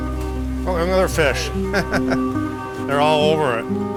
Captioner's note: chuckles